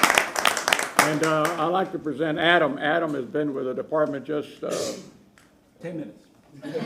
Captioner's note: applause